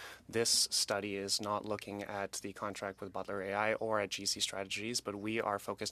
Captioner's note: speaking French